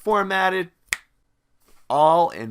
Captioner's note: finger snaps